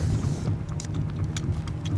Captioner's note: camera clicking